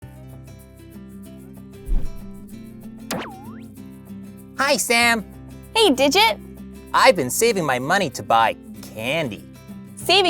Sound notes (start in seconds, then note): 3.1 boing